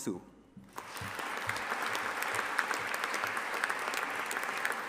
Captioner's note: audience applauding